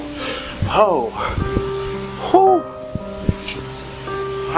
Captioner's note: grunts